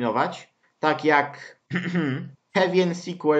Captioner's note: cough